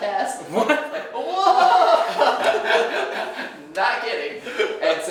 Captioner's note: laughing